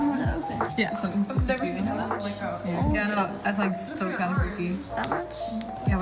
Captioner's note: chatting between girls